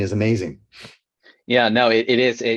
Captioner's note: sniffles